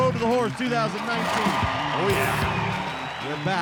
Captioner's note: crowd cheers